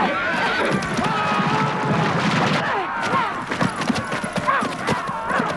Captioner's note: horse hooves pounding